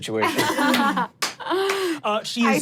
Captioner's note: everyone chuckles; claps